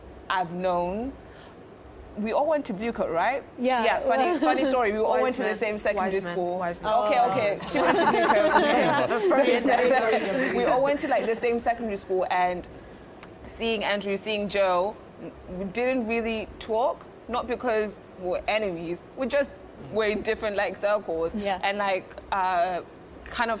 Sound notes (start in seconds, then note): 7.6 laughter